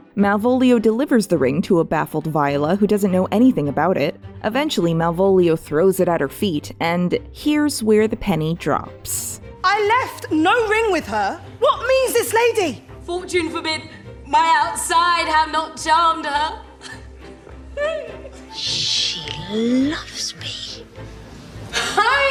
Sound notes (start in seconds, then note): 17.7 giggles